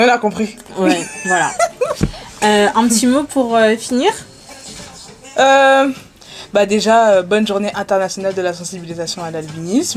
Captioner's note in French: rires